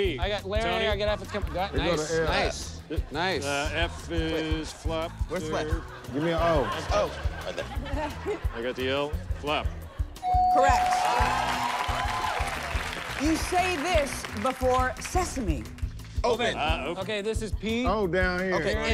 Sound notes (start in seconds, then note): 10.2 bell dings; 10.5 cheers and applause